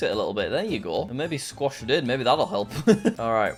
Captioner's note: laughs